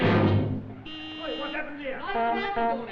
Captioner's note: car horn; shouting and car horns